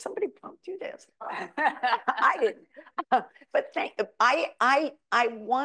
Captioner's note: audience member laughs